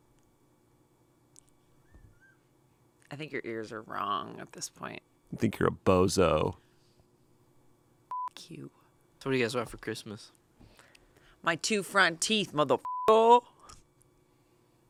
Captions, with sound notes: - I think your ears are wrong at this point. - I think you're a bozo. - (beep) You. - So what do you guys want for Christmas? - My two front teeth, mother (beep).